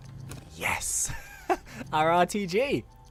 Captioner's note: laughs